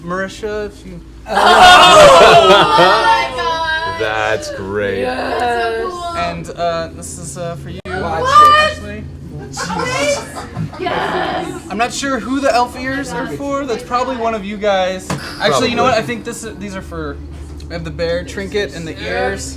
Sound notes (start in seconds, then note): 1.2 cheering